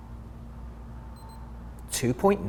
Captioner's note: meter beeps